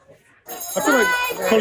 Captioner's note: rings bell